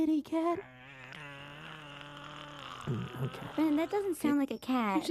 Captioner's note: growling